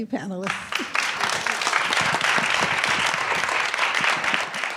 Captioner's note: applause